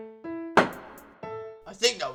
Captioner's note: gavel slams again